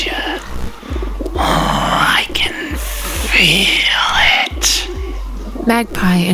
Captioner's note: growls